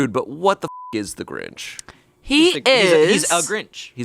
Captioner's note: beep